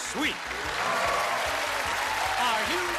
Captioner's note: cheers and applause